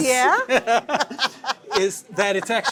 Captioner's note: laughter